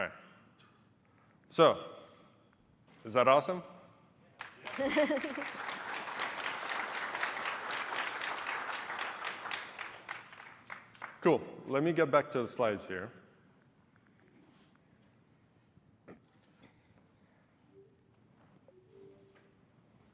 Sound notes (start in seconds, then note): 9.6 applause